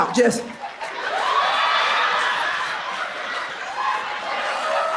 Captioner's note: audience laughs